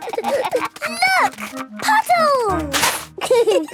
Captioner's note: giggling; laughter